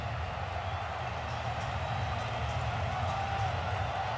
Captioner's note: cheering